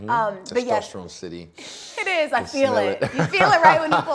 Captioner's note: inhales